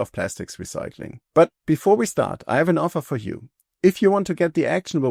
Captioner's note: none